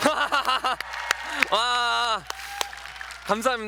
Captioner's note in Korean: 박수 소리